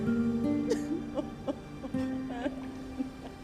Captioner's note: sobbing